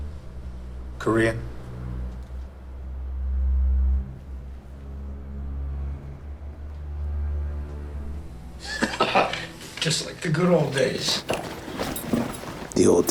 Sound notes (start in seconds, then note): 8.6 laughs